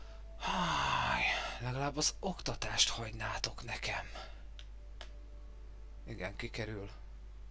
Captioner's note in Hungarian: sóhajtás